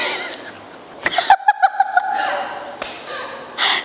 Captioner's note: laughter